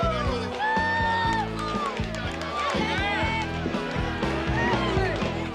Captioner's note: people cheering